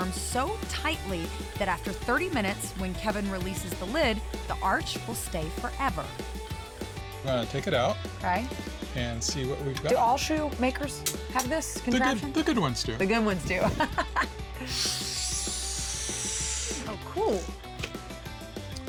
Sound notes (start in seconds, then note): 13.6 laughing; 14.5 suctioning